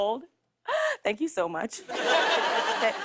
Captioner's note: laughter